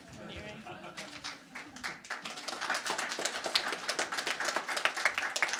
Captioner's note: crowd applauding